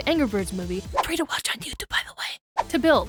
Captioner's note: whispers